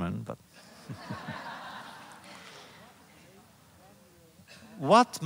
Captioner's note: laughter